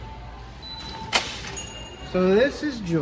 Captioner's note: door clicks